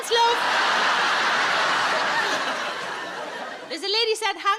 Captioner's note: audience laughs